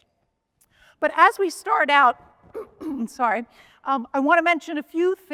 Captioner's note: clears throat